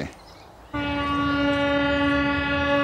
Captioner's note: horn blowing